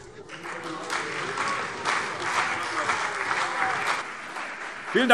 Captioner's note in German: Beifall CDU und BÜNDNIS 90/DIE GRÜNEN